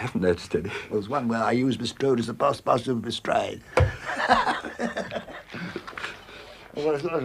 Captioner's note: laughs